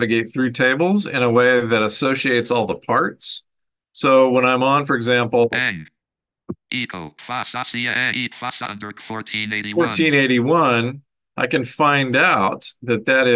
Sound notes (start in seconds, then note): 7.0 speaking gibberish